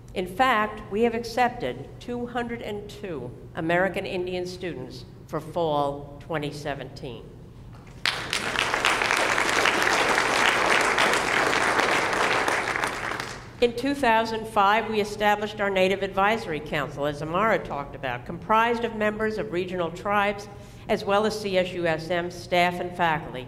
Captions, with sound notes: In fact, we have accepted 202 American Indian students for fall 2017. [ Applause ] In 2005, we established our Native Advisory Council as Amara talked about. Comprised of member of regional tribes, as well as CSUSM staff and faculty,